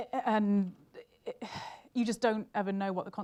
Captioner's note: sighs